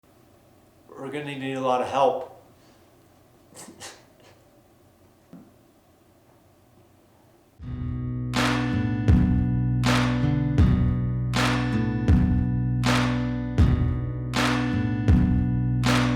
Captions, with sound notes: - We're gonna need a lotta help. (sobs) (sad music)